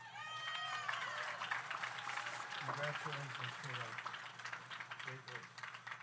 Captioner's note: audience cheers; audience applauds